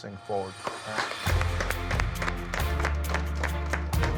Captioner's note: applause